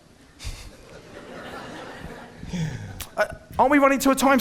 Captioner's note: audience laughing